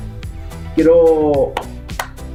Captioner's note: clap,clap